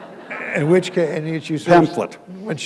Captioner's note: laughter